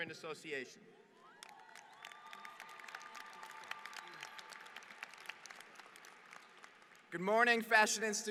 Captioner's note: applause